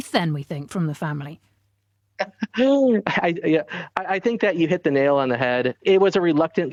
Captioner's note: laughs